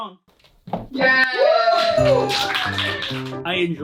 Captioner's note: some polite applause